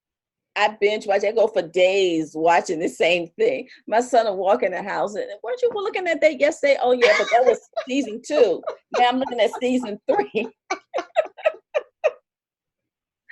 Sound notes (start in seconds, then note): 11.2 laughter